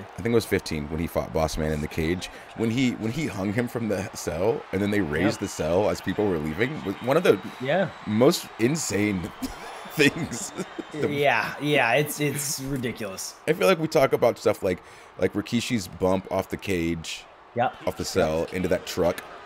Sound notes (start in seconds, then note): 9.3 laugh